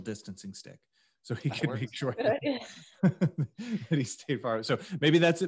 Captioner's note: laughs